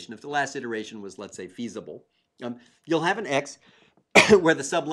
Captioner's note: cough